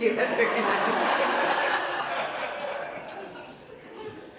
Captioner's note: audience laughs